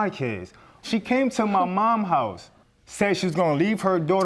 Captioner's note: scoffs